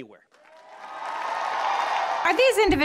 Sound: cheers and applause

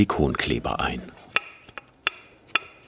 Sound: clacking

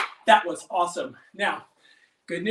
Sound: claps

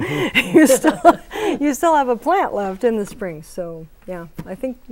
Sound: laughing

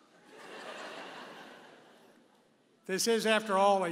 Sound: audience laughing

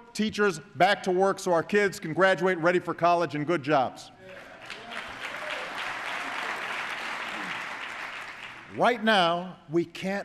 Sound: applause

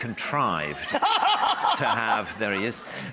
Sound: laughing

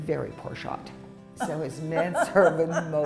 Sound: laughter

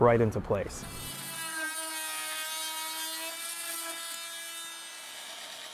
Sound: electric saw roaring

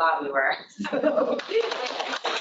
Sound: laughter; applause

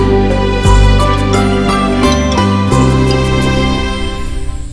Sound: phone ringing

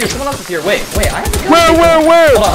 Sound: rapid gunfire; single gunshot

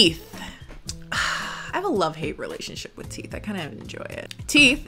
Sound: sighs

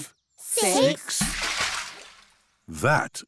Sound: splash

